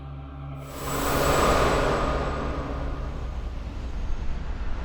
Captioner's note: wind whooshing